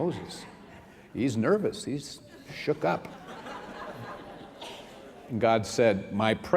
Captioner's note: laughter